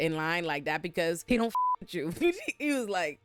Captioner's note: beep